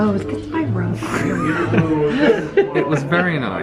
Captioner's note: both laugh